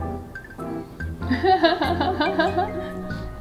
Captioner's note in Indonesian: tertawa